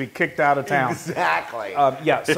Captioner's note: laugh